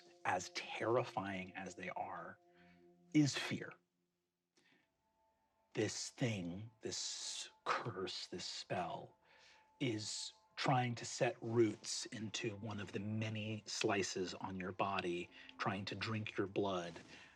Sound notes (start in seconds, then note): none